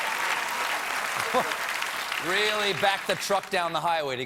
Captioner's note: laughter